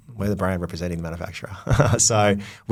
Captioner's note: laughs